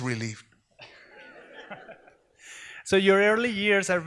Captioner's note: audience laughs